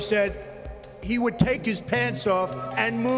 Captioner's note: laughs